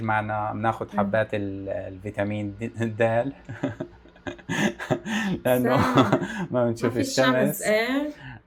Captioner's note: laughs